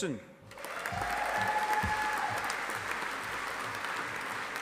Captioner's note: audience applauding